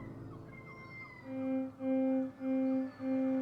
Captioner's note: birds squealing; alarm hooting; water trickles